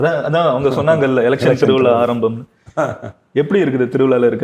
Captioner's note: both laugh and repeat "election festival started"